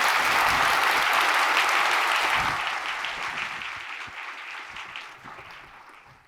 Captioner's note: applause